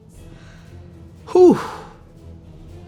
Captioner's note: sighs